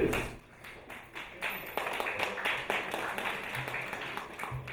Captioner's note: audience applauding